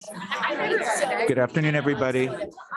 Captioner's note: group conversing